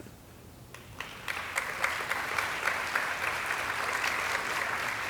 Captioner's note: audience applauding